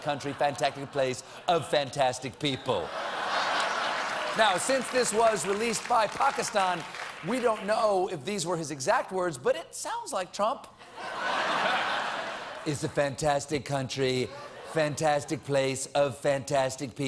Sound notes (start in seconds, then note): 3.4 applause